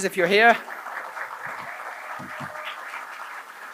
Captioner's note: applause